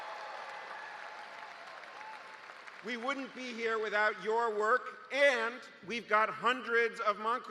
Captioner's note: cheers and applause